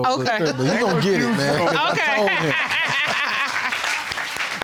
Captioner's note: indistinct chatter; laughs